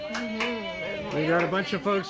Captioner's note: audience members cheering